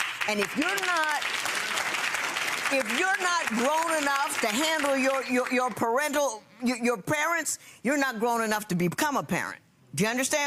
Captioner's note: clapping